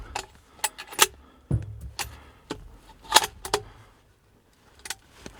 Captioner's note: gun racking